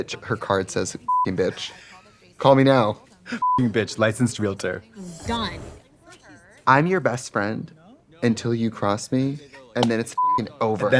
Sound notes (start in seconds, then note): 1.1 beep; 3.4 beep; 10.2 beep